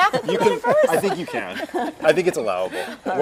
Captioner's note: laugh